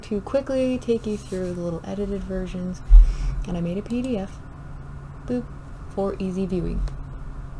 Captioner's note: boop